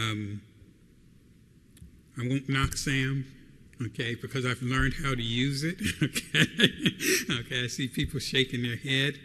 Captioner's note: laughs